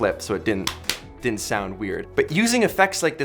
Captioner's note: clapping hands